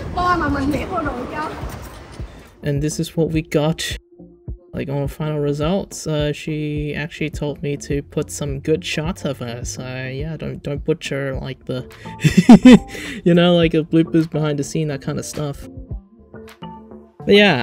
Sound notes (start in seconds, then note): 12.1 chuckles